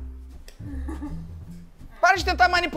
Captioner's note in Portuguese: risadas